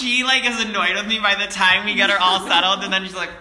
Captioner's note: laugh